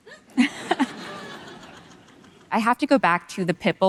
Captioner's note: audience laughing